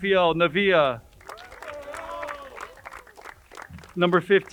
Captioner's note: crowd cheering and applauding